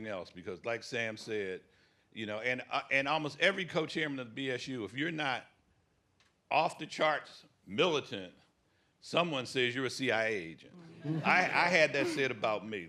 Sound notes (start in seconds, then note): 10.8 laughter